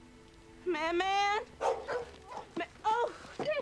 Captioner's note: dog barking